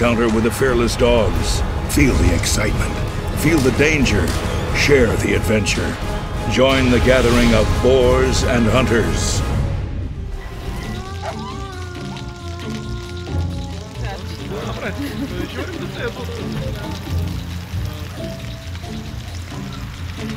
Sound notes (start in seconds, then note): 10.6 dogs barking; 11.2 soft music; 14.0 people chattering; 15.2 soft music